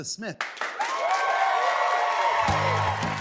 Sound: applause

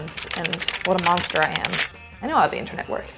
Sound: keys clicking

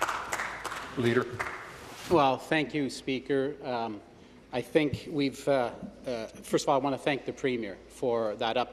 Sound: applause

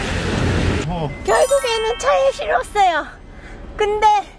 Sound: excited voice...kkk

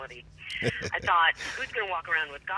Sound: chuckling

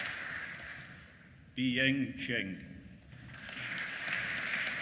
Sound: applause

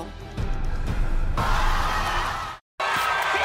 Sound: crowd cheering

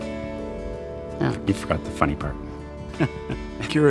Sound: both laugh

